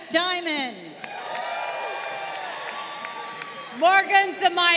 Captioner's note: crowd cheering